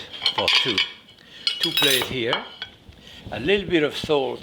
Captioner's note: plates clattering